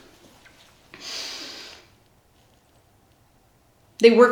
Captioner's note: sniffs